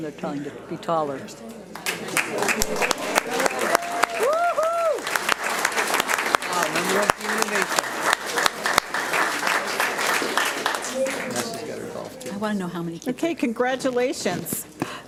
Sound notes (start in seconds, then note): 1.8 audience cheers and applauds; 8.7 audience applauds